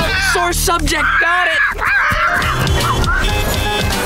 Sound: squawking

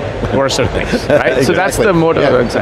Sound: chuckles

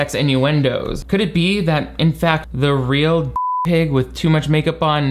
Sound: beep

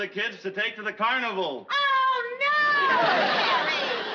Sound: screaming

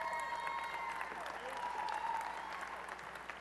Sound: applause and cheering

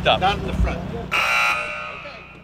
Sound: buzz

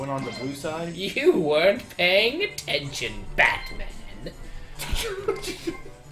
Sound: imitating The Penguin; chuckles

